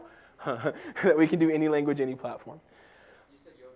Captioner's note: laugh